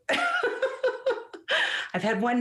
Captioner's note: laughs